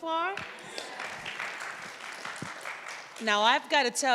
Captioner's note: audience applauds